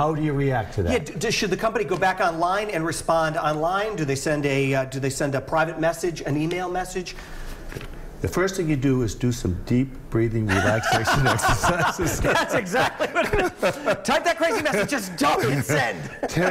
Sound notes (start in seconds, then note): 15.3 laughter